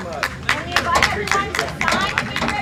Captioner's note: audience applauds